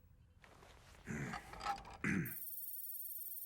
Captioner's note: batou clears throat